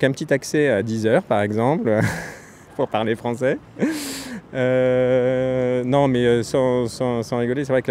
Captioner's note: laughs